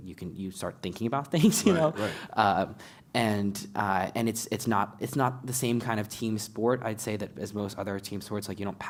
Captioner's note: laugh